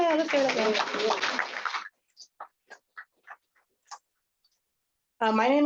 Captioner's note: applause